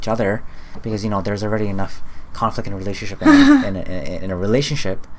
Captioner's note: talking fastforwards